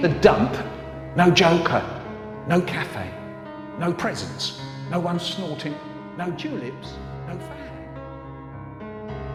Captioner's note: trails off